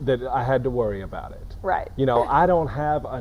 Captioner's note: chuckling